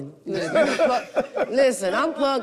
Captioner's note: group chuckles